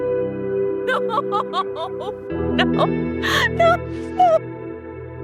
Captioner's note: Corrine crying